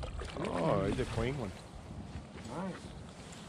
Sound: fish splashing

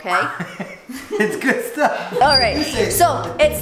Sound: laughing

